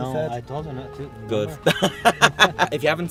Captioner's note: laughs